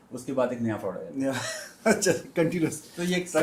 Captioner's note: laughter